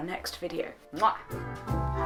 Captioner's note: kiss